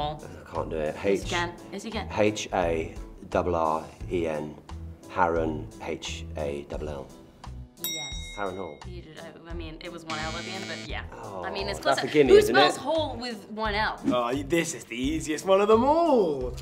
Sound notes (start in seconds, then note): 7.8 bell dings; 10.0 buzzer